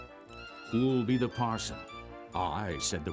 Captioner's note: voiceover